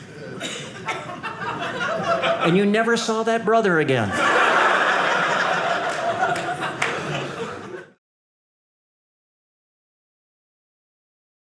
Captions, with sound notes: And you never saw that brother again. (audience laughing)